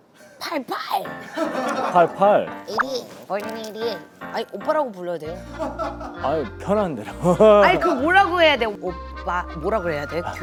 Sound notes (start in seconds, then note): 5.4 chuckles